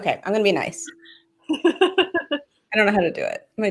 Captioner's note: laughs